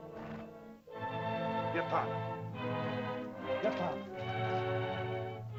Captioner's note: soft ominous music; Akhoba speaks in caveman language; dramatic music